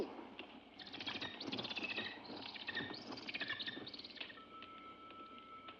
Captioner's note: bird chirps; eerie music